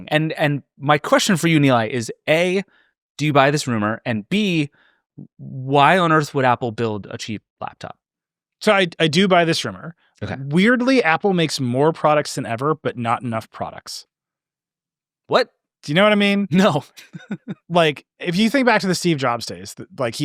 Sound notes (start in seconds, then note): 16.7 laughing